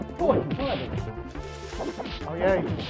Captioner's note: distant chattering; legs thudding; legs whooshing